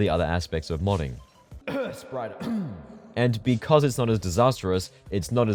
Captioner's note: cough that sounds awfully like the word ‘Spriter’